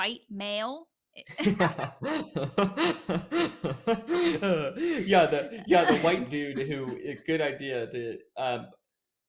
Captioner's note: laughter